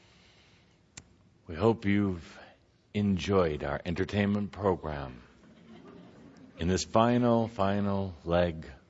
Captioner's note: some laughter